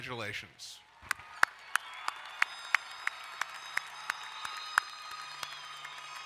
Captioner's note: crowd cheering and applauding